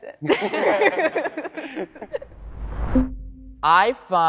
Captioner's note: all laughing